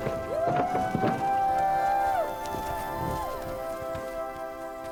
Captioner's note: people cheering